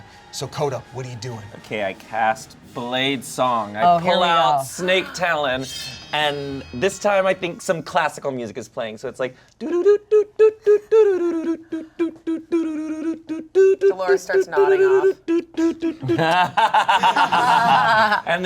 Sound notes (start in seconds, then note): 10.7 humming song; 15.5 laughing